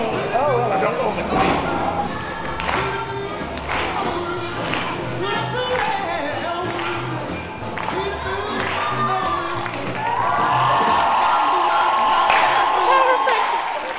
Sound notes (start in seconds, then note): 10.5 cheering